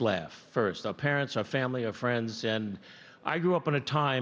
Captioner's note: none